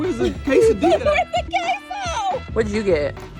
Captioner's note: laughs